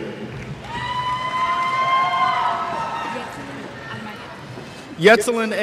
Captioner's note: cheers